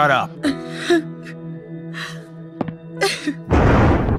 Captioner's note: cries; convenient thunder